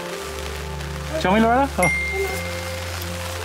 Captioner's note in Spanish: Ding